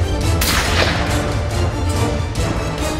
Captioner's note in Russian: выстрел